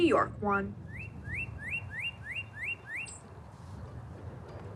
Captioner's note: bird chirping